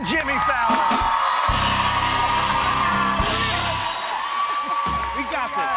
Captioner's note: cheers and applause